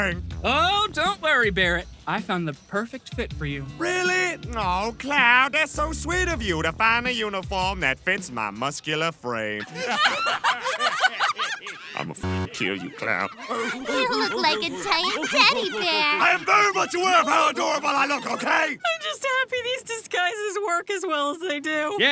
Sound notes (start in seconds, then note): 10.7 hysterical laughter; 15.6 laughter; 18.3 laughter; 18.9 finishing laugh